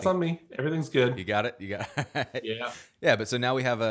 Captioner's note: laughs